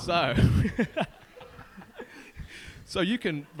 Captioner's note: laughing